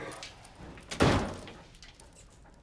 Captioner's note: door closes